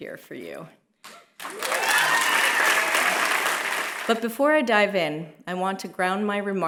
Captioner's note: applause